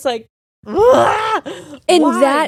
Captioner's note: groaning